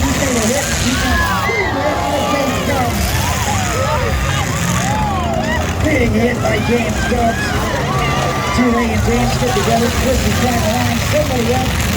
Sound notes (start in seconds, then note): 1.0 crowd yells OH!!!!; 1.9 cars hit and crash